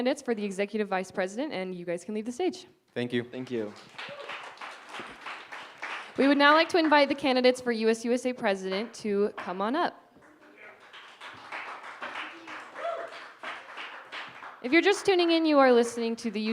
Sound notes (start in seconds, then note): 4.9 applause; 10.2 cheering, applause